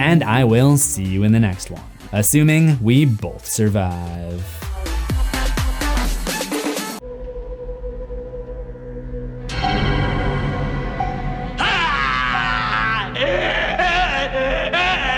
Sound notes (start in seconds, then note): 4.6 upbeat music; 7.0 eerie music; 11.5 screams